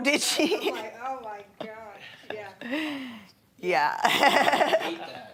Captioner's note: laughing